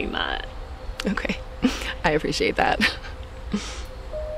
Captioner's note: laughs